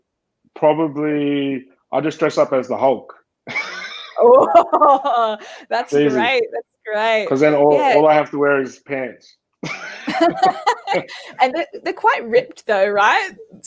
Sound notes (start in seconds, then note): 3.5 laughing; 9.6 laughing